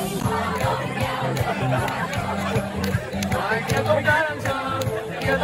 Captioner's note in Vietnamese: Vỗ tay